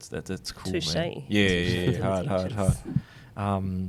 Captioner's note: chuckles